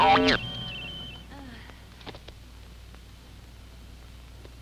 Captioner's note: groaning